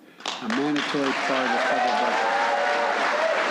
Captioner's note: applause